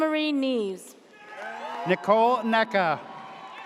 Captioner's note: audience cheers